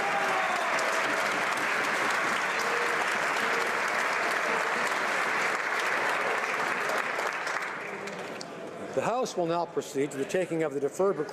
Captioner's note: applause